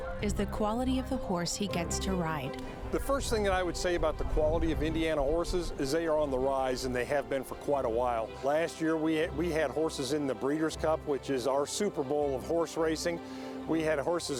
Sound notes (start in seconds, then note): none